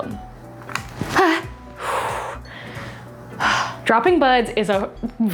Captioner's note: gasps